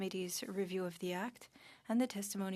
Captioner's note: speaking French